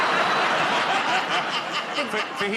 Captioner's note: laughter